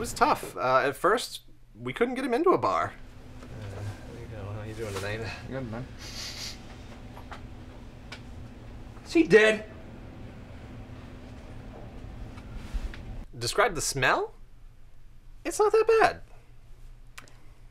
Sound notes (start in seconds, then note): 6.0 sniffs